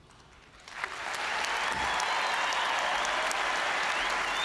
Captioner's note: audience cheering and applauding